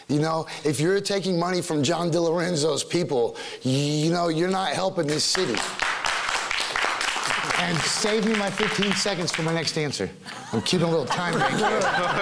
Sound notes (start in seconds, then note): 5.0 clapping; 10.3 laughing